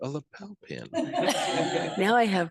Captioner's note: group laughing